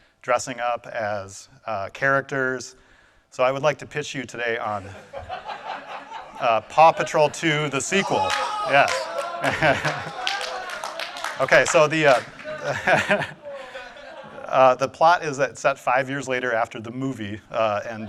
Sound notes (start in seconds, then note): 5.3 audience laughing; 9.8 audience cheering